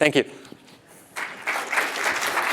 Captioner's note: applause